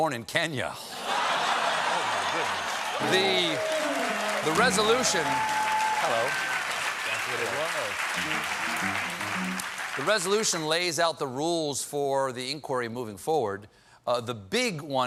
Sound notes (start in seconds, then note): 3.5 laughter; 3.5 piano riff